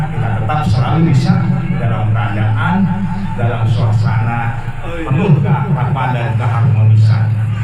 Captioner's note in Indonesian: tertawa